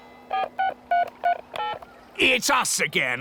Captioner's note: dialing